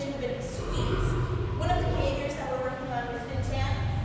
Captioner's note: lion growl